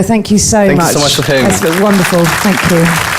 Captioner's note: audience applauding